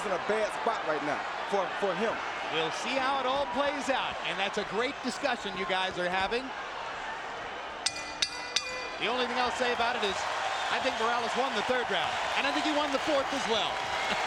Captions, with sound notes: BUT I'M SAYING HE'S IN A BAD SPOT RIGHT NOW FOR HIM. - WE'LL SEE HOW IT ALL PLAYS OUT. AND THAT'S A GREAT DISCUSSION YOU GUYS ARE HAVING. [BELL DINGS] THE ONLY THING I'LL SAY ABOUT IT IS I THINK MORALES WON THE THIRD ROUND, AND I THINK HE WON THE FOURTH AS WELL.